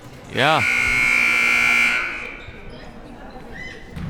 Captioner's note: buzzer ringing